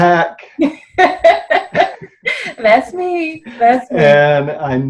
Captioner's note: laughs